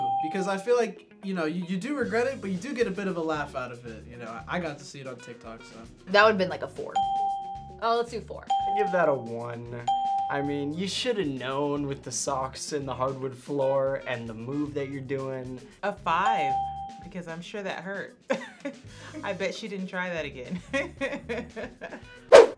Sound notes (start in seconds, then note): 18.3 chuckles; 20.6 laughs